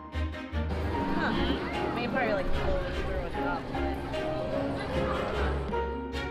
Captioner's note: mumbling to try and figure out how it works